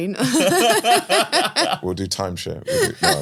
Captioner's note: laugh